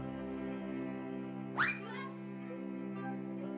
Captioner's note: squeak